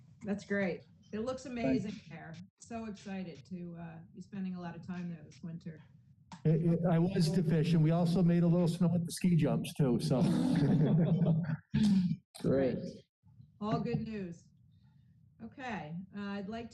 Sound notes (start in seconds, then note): 10.0 laughter